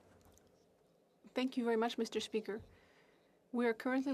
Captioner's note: speaking French